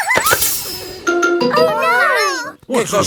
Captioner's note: laughing; tire hisses